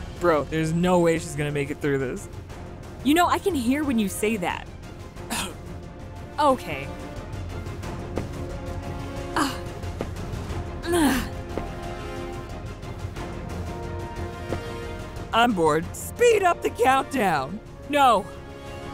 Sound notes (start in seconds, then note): 5.3 Jimmy coughing; 7.2 dramatic music; 10.8 grunting